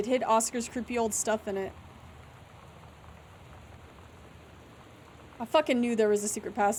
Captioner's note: none